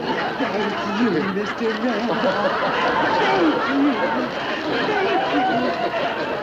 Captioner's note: audience laughing hysterically